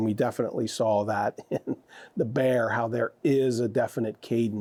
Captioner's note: chuckles